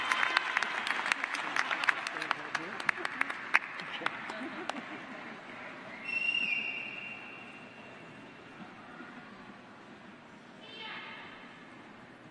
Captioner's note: applause